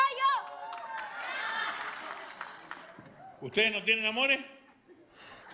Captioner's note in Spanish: risas